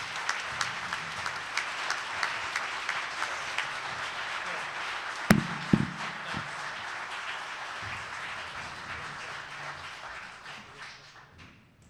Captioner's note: applause